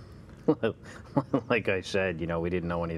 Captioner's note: chuckle